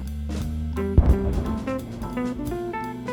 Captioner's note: boom; crater forming distant boom